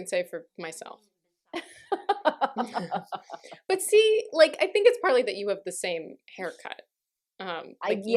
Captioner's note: laughter